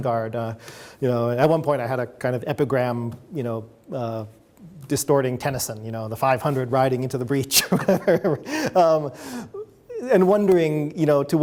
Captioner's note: chuckles